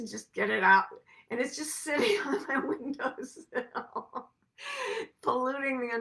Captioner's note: laughs